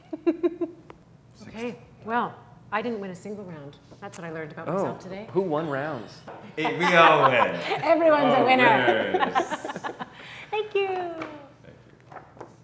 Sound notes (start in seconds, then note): 0.0 chuckles; 6.6 laughs; 8.9 laughing